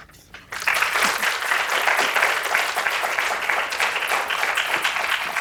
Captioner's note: audience applauding